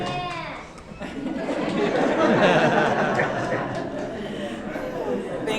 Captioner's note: audience laughing